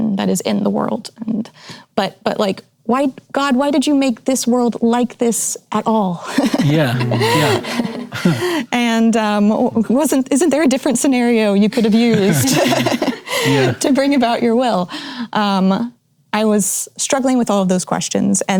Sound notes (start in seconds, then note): 11.8 laughing